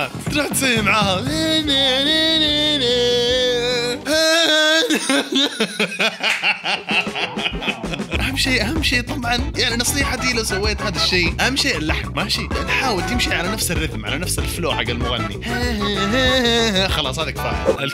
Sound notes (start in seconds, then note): 4.5 laughter